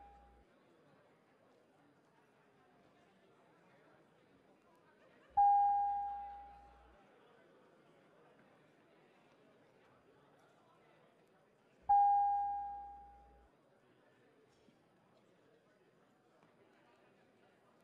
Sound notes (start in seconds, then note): 6.7 bell ringing